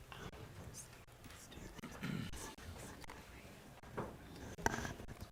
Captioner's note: board chatting quietly